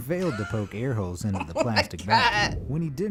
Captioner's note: laughs